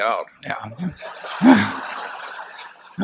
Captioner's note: laughter